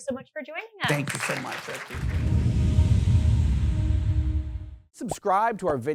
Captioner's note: audience claps